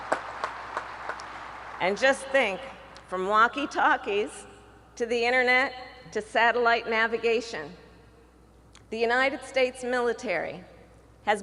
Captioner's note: applause